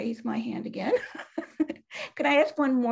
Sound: chuckling

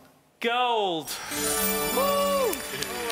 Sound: chiming; cheering

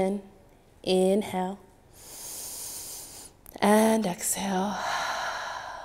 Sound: inhaling; exhaling

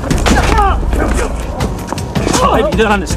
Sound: grunt; groan

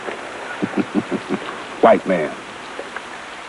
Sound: chuckles

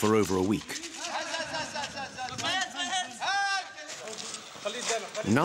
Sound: Arabic spoken audio

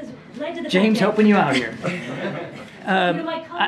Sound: laughter

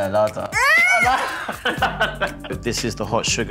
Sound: laughing

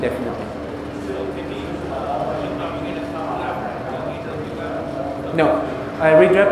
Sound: audience speaks softly

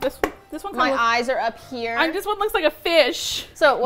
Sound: mocking

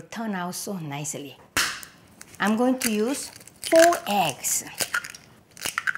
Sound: egg cracking

